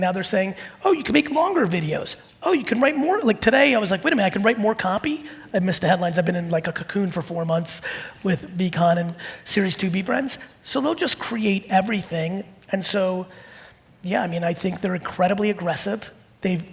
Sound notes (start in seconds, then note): none